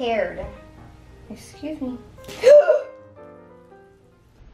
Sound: gasps

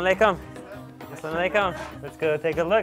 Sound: foreign language

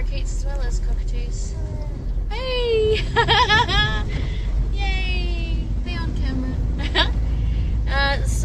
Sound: laughing

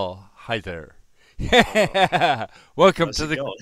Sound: laughter

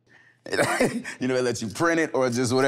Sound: laughing amusingly

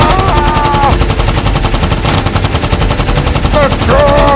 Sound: machine gun

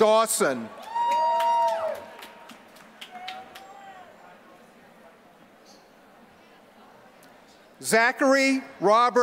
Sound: applause

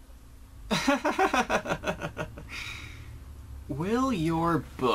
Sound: chuckles

